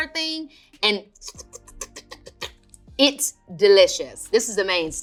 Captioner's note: imitates slurping